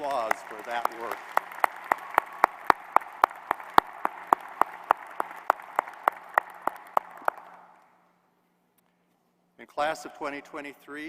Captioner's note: applause